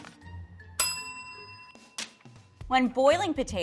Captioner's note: bell dings